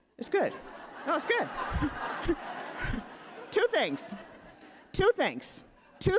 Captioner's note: audience laughing